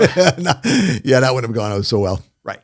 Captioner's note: laughing